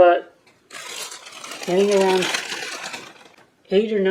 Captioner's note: crinkling of wrapping